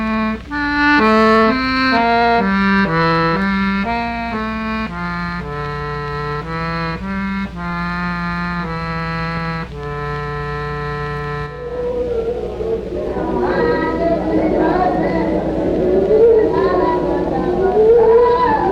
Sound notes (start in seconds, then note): 13.0 chanting in foreign language